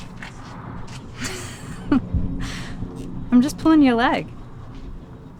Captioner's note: laughs